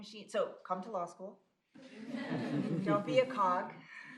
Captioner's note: laughter